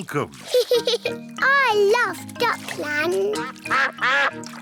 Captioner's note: giggles